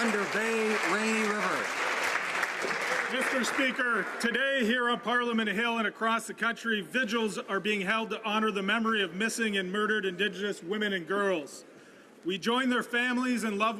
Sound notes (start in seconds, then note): 0.0 some Applause